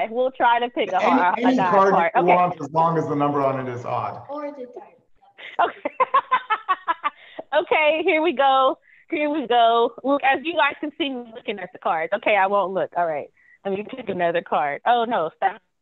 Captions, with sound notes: We'll try to pick an odd card, okay. - Any card you want as long as the number on it is odd. - (laughs loudly) Okay, here we go. Here we go. Look, as you guys can see me looking at the cards. Okay, I won't look, all right, Let me pick another card. Oh, no.